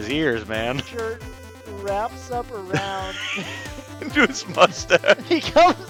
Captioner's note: laughs